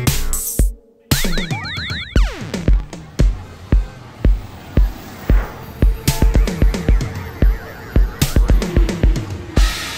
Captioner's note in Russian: шум транспорта